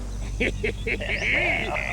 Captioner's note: laughing hysterically